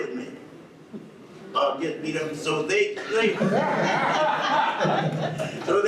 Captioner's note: audience laughs